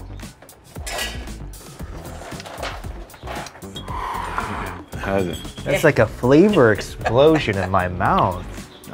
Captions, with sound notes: (slurping Consomé) - How is it? - That's like a flavor explosion in my mouth.